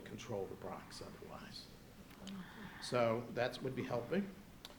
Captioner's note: none